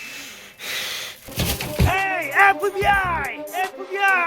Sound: door opens

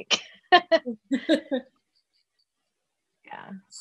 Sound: laughs

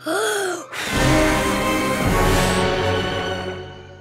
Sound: blowing

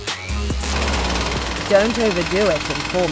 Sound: jackhammer

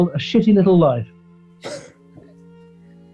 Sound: chuckles

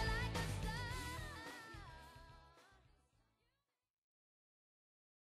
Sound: no sound

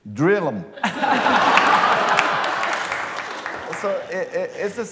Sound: laughter

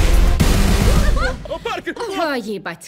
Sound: Parker yelps; Owen exclaims

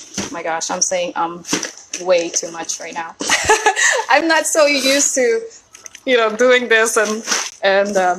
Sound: laughs

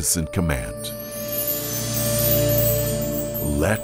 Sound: bells chiming

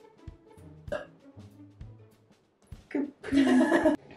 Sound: burp; laughing

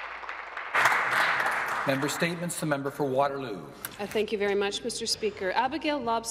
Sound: applause

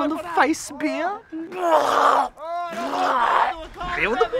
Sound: vomiting sounds

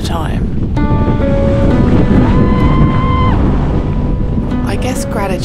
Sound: music and screaming at big wind gust

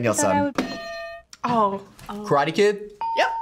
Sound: bell rings

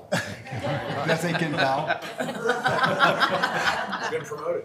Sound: members laughing

